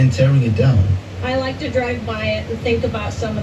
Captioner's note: on TV